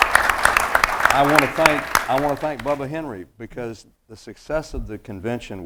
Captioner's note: applause